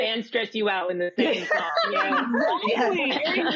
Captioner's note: laughter